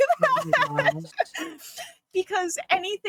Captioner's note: laughing